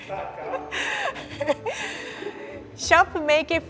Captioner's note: chuckles